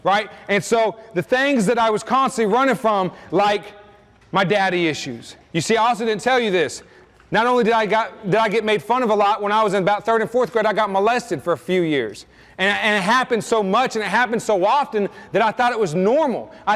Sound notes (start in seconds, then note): none